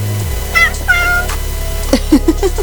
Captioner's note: meow Meow!